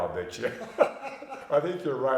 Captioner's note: both laughing